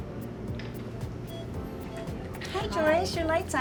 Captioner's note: beeping